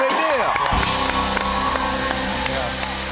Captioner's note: cheers and applause